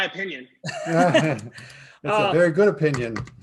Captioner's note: laughing